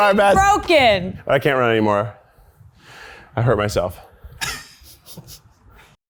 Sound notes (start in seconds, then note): 4.8 laughs quietly